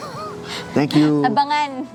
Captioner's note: laughing